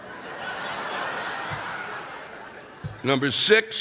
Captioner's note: audience laughing